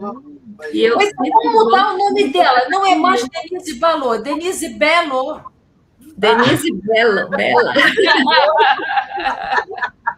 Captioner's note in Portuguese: risadas